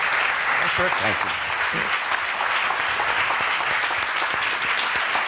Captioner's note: applause